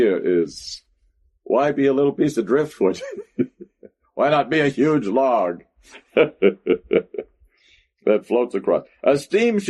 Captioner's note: laughs